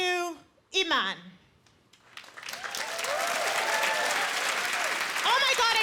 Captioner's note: applause